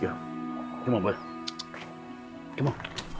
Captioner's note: tongue clicking